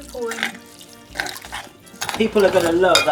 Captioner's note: milk splashing